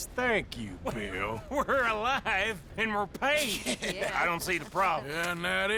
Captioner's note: laughs